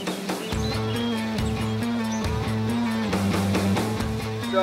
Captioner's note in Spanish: estudiantes hablando